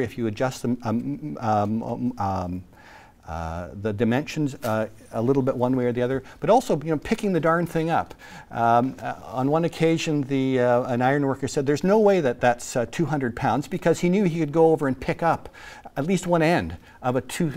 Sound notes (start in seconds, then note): none